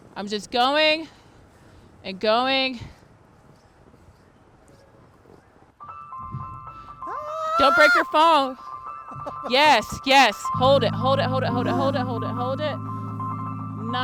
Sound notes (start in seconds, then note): 5.1 bright music; 9.2 chuckling